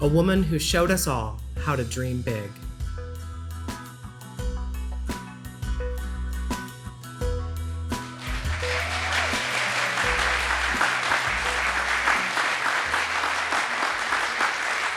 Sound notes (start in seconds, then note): 3.1 rhythmic piano music; 8.1 audience cheers and applauds